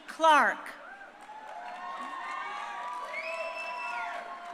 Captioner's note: crowd cheering